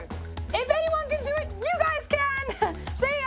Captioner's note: chuckles